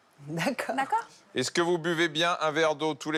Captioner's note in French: none